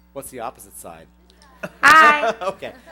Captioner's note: laughter